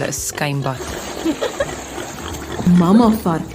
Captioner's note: little piglets laughing and splashing